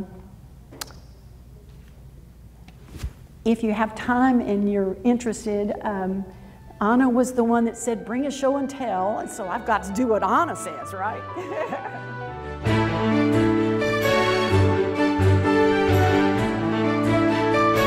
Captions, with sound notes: If you have time and you're interested, Ana was the one that said, "Bring a show and tell," and so I've got to do what Ana says, right? (laughs) (upbeat music)